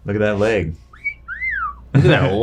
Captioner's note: whistling